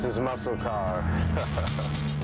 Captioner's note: chuckles